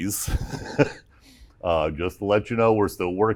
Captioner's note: laughter